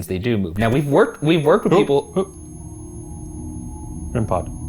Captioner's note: device beeping